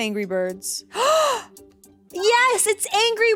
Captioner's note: gasps